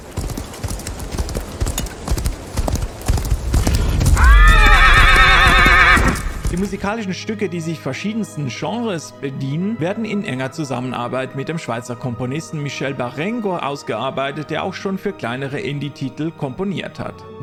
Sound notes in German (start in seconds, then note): 0.0 lauter werdendes Galoppieren; 3.4 wiehern